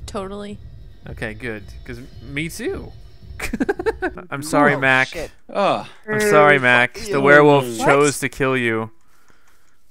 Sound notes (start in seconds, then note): 0.2 voiceover; 3.4 giggles; 6.4 voiceover